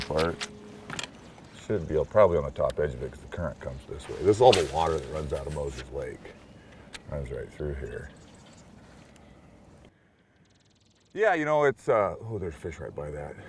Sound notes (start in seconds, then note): 4.0 rod whipping; 5.8 reel spinning